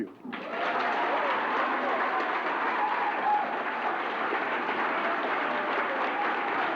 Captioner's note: applause